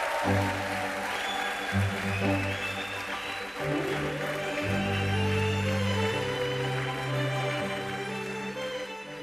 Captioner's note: applause